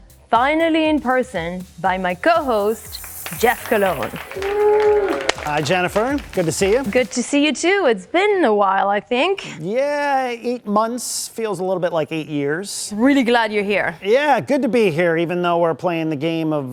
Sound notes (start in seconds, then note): 4.9 audience applauding and cheering